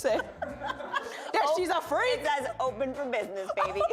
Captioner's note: laughter